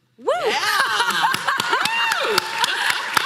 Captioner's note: applause